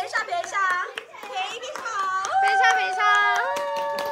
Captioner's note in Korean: 박수